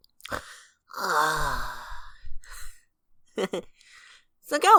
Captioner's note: chuckles